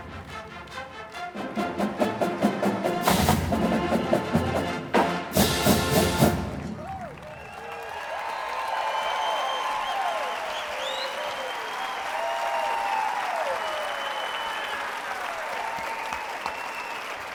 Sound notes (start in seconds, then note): 6.2 applause